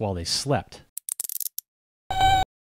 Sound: handcuffs click

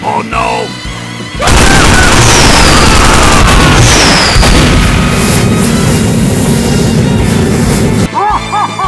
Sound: weapons fire

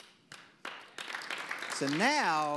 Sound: audience applause

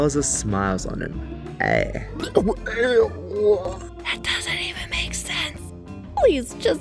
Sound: vom noise

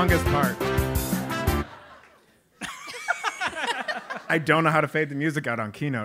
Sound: laugh

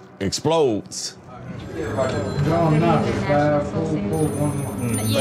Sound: telephones ringing

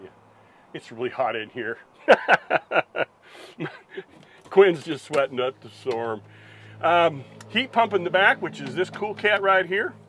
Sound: laughs

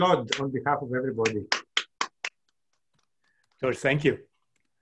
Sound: clapping

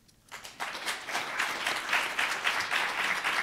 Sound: applause

